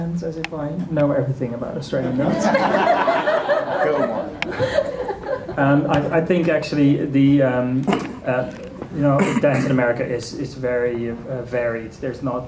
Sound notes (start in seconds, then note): 2.3 laughter